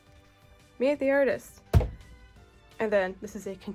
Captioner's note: plap